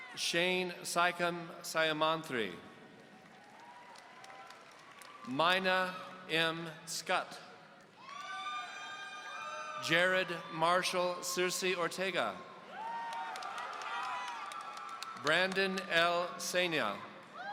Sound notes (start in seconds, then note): 2.9 audience applauding; 8.0 audience cheering